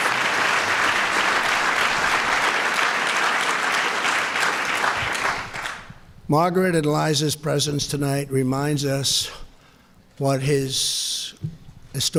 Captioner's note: applause